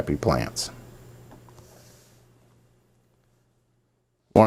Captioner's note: silence